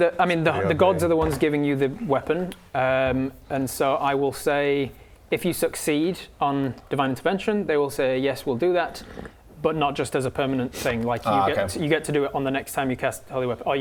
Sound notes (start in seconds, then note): none